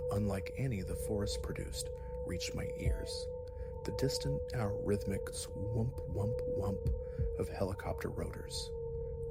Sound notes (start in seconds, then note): 5.7 whump-whump-whump